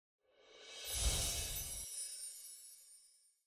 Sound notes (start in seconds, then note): 0.8 chiming